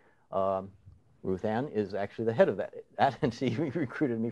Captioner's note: laughing